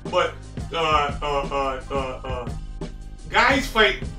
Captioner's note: stutters